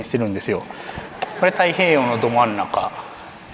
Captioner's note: laughter